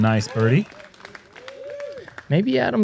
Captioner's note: applause